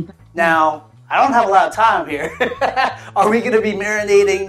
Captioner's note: laughs